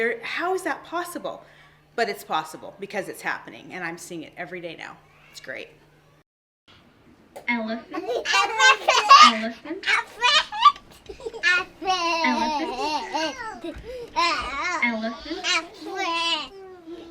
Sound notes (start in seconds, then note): 8.3 children chattering; 12.5 children imitate elephant noise